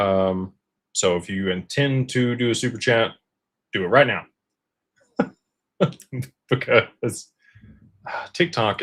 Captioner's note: laughter